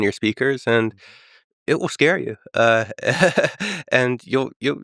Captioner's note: laughs